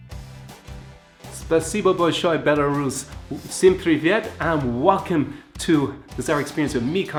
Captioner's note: Russian